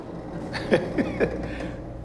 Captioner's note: nervous laughter